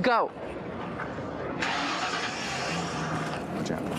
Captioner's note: engine starts